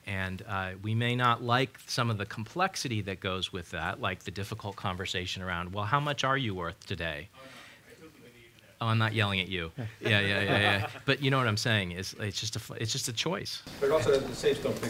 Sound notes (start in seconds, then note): 7.5 student speaking in background